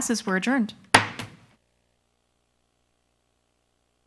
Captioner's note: gavel knocks